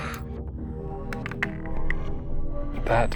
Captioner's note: dice clanks